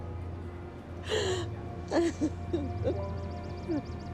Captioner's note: sobbing